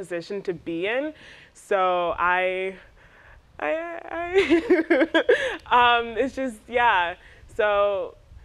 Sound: laughs

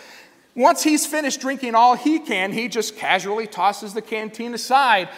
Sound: none

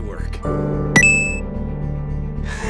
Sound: ba ding

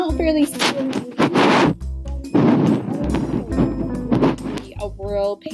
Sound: static crackling

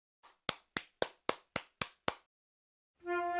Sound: claps

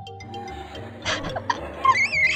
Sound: laughing

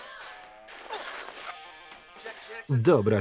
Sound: screaming

